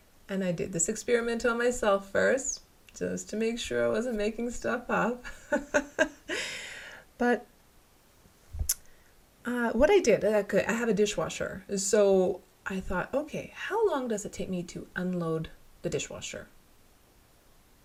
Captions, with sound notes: And I did this experiment on myself first, just to make sure I wasn't making stuff up. (laughter) But what I did, I have a dishwasher, so I thought okay, how long does it take me to unload the dishwasher?